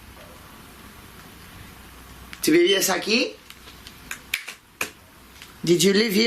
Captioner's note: speaking in foreign language